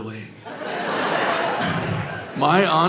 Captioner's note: audience laughing